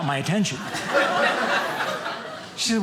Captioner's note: audience laughing